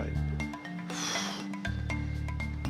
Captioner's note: sighs